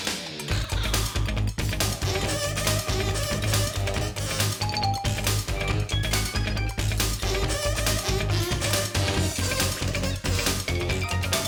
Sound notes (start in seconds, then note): none